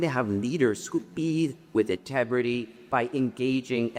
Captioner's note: none